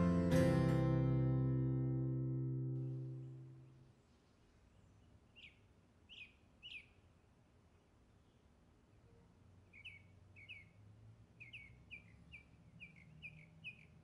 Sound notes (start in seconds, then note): 1.6 nature sounds